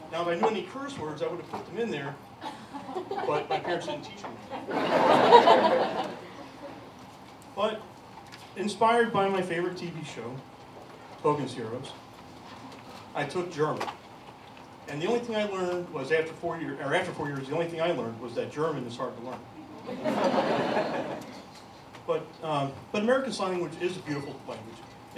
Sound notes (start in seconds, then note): 4.4 laughter; 19.7 laughter